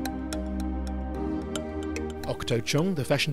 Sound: voiceover

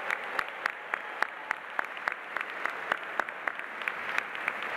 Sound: audience applauding

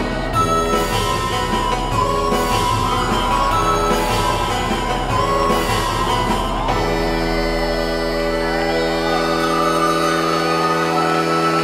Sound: crowd cheers

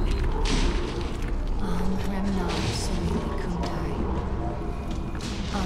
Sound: chanting in foreign language

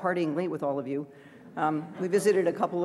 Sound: laughter

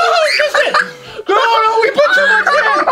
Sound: yelling and laughing

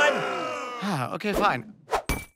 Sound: sighs

